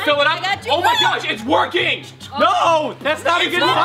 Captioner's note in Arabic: صراخ